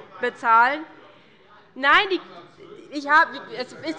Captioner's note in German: Anhaltende Zurufe von der CDU und dem BÜNDNIS 90/DIE GRÜNEN